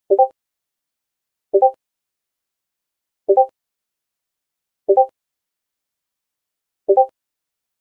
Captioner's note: discord ping x5